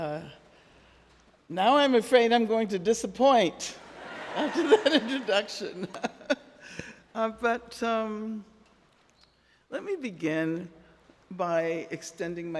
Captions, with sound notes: Now I'm afraid I'm going to disappoint (audience laughing) after that introduction. (Angela laughing) But let me begin by extending my thanks